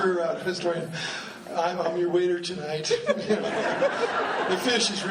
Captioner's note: laughing